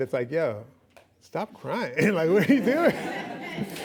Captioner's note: laughing; laughs